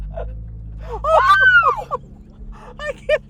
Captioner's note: screaming